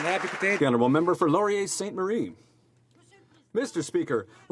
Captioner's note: some Applause